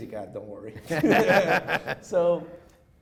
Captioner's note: chuckles